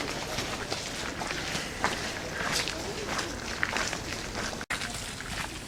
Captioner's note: footsteps & People Talking